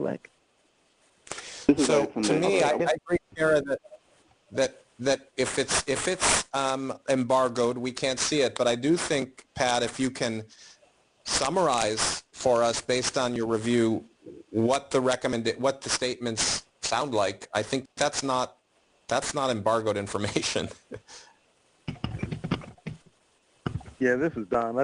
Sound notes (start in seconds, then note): 20.6 chuckles